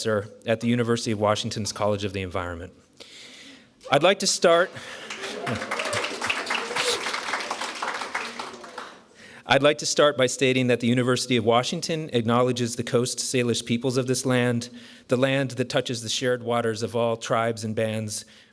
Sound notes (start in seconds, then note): 8.3 applause